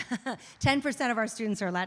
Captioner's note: laughs